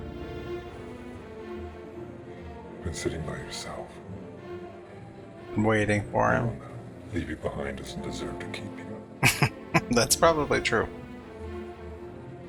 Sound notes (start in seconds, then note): 9.2 chuckling